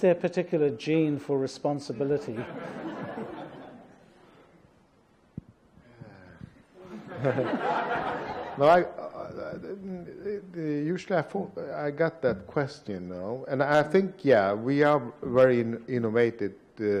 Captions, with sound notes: Is there a particular gene for responsibility? (audience laughs) (sighs) (audience laughs) I got that question, and I think yeah we are very innovative